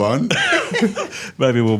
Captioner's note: participants chuckle